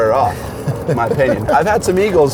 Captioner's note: laughs